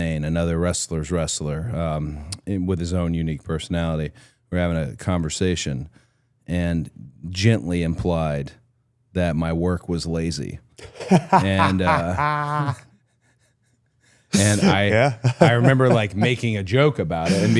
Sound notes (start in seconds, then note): 10.8 Gunther laughs